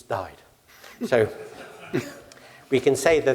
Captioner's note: laugh